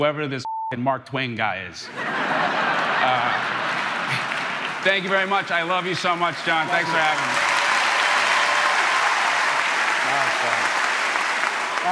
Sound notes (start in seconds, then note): 1.9 crowd laughing; 7.3 crowd cheering